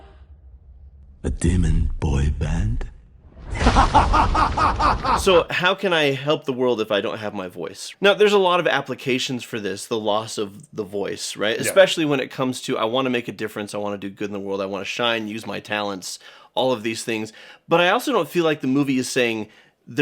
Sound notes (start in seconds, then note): 3.9 laughs